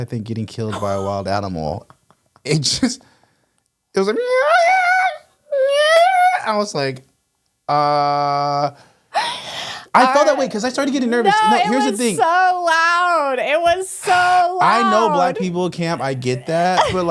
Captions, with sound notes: I think getting killed by a wild animal. It just, it was like. (cat meowing) I was like, uh. I fell that way because I started getting nervous. - No, it was so loud. It was so loud. - I know black people camp, I get that.